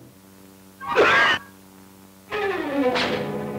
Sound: coughs

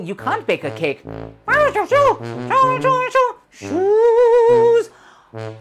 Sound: speaking elvish

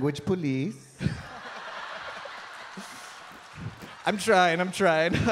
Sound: audience laughing

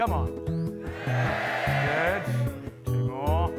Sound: cheering

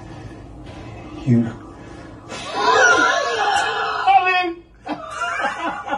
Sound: laughs

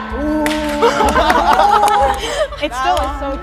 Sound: everyone clapping

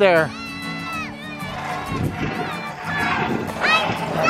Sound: distant yelling

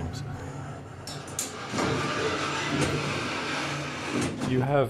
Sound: mechanical sounds

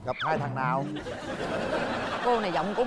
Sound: laughing

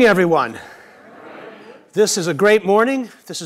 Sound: audience murmurs

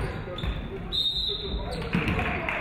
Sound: referee whistles; audience clapping

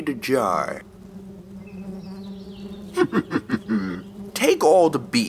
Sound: bees buzzing; Toad laughing

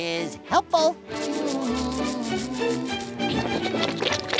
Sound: humming

